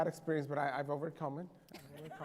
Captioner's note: laughter